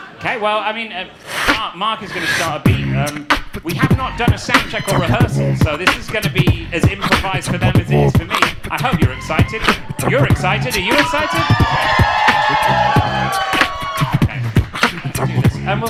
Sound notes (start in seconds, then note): 0.0 audience laughing; 3.1 beatboxing; 12.2 audience cheering